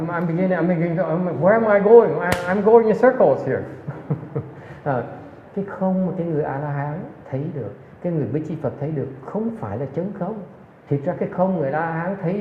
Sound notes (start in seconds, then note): 3.8 laughs